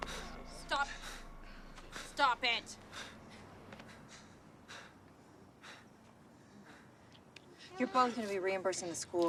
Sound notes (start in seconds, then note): 3.6 footstep